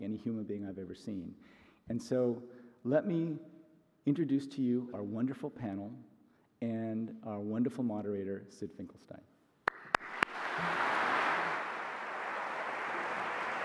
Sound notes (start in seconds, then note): 9.6 audience applauds